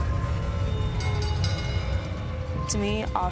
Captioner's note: bell ringing